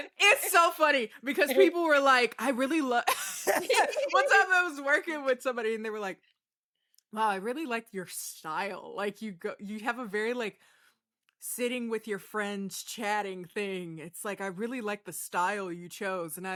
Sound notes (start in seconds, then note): 3.1 laughing